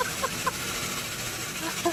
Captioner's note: laughs